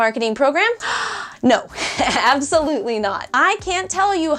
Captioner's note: gasps